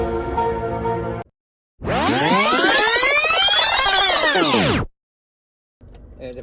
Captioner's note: rewinding